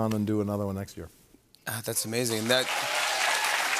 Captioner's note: cheers and applause